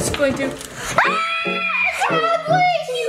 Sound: girls scream

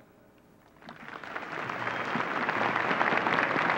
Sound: applause

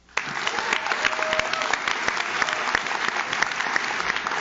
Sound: audience claps

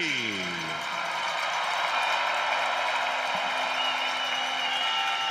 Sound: cheering

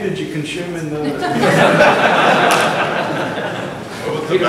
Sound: laughter; talking in background

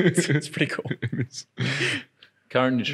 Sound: laughs

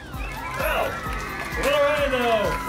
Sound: audience cheering and clapping

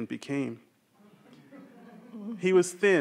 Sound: audience chuckling

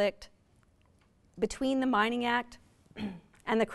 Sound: clears throat

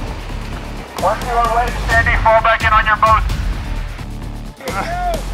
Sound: upbeat music; voice over bullhorn

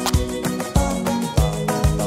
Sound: match scratches box; upbeat music

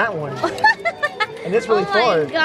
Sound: laughs

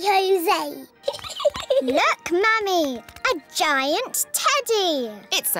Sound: giggles

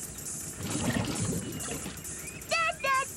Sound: sloshing

